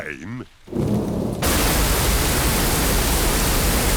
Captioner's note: thunder rumbling